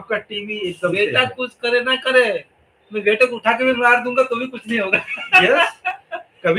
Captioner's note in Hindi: हंसी